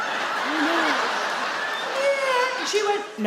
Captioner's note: audience laugh